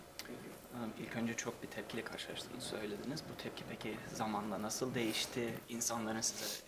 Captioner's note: translator speaks in Turkish